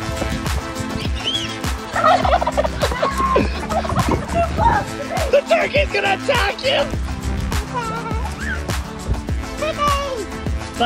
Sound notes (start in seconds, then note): 0.2 upbeat music; 1.9 gobbling